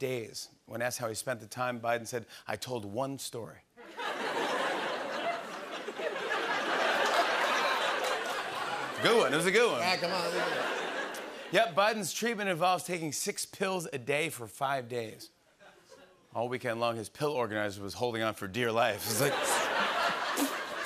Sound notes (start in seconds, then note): 3.8 laughter